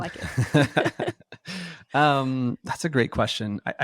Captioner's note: both laughing